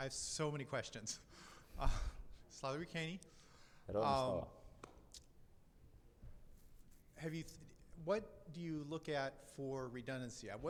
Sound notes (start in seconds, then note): 2.6 speaking in foreign language; 4.1 speaks in foreign language